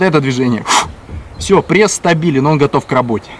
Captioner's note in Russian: резкий выдох